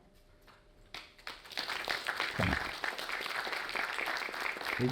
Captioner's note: audience applauding